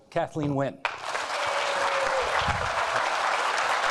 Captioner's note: applauding